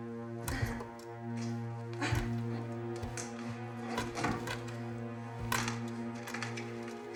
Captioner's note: scary music; Freddie struggling